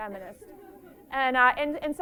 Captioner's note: laughter